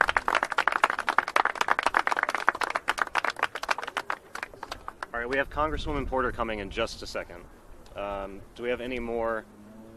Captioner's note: applause